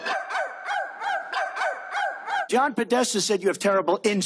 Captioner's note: barking